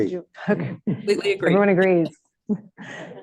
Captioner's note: laughter